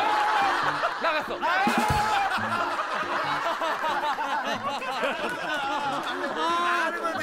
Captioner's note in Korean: 웃음소리